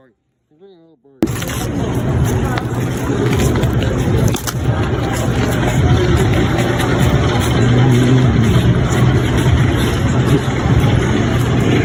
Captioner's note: more crunch